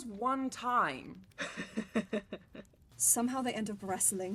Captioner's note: James laughs